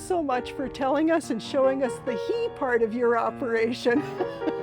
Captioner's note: laughs